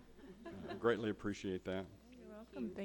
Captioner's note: all chuckling